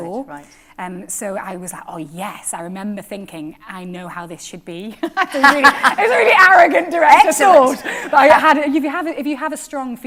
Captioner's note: laughter